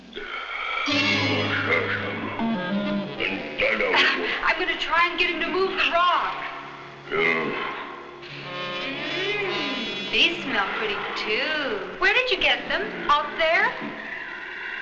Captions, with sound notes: (grunting) (dramatic instrumental music) (speaking in a foreign language) I'm gonna try and get him to move the rock. (grunting) Mm, these smell pretty too. Where did you get them, out there?